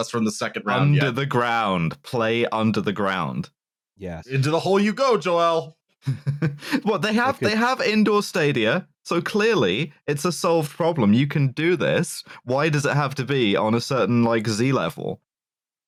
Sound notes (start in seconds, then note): 6.0 chuckles